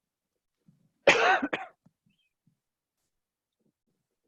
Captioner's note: coughs